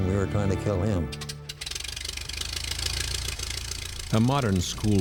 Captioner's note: propellers whirring